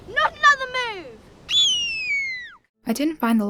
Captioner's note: squeals